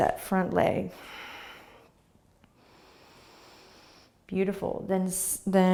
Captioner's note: exhaling and inhaling